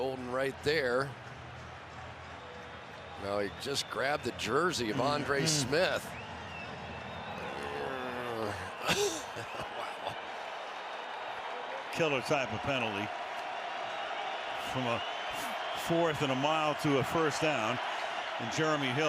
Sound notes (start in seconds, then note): 8.0 growls; 9.5 laughs